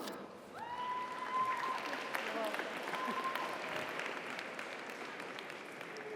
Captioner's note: audience cheers; audience applauds